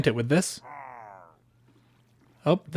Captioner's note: Pillager murmurs